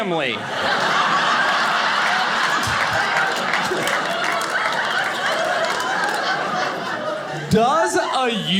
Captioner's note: audience laughing